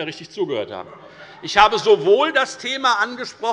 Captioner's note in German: Heiterkeit